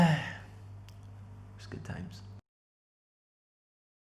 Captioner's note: sigh